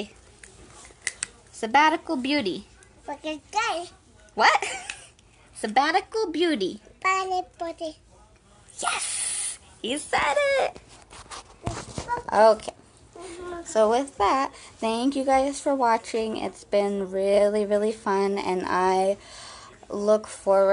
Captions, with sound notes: - Say, "Sabbatical Beauty." - (speaks gibberish) - What? (chuckles) Sabbatical Beauty. - Sabbatical Beauty. - Yes! He said it. Okay, so with that, thank you guys for watching, it's been really, really fun and I look forward